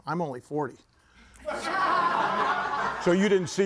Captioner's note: audience laughing